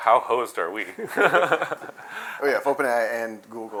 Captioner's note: laughter